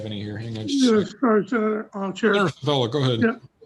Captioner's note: faintly speaking